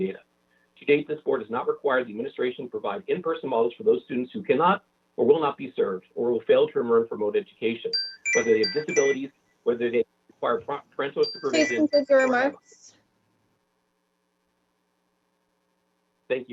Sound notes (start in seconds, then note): 7.9 chime